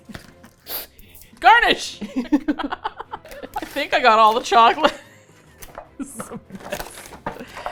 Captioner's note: laughs; both laugh; laughs